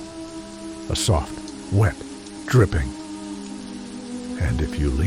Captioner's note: dripping